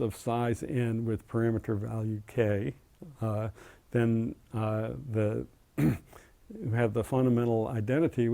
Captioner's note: cough